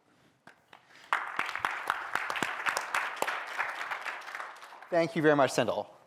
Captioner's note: applause